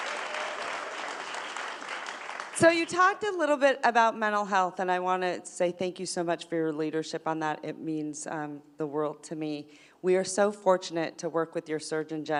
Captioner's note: applause